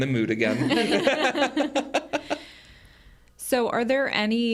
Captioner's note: group laughs